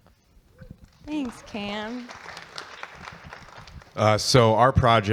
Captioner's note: audience clapping